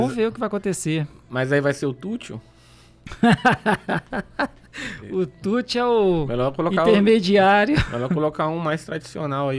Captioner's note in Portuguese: risadas